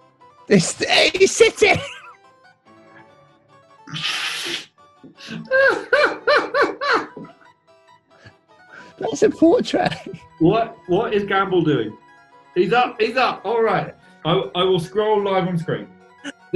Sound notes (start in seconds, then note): 3.8 sniggering; 5.2 laughing